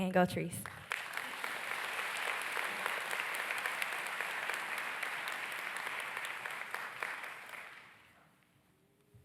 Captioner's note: audience claps